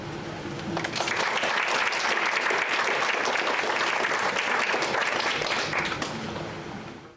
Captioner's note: clapping